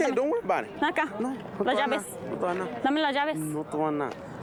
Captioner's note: speak spanish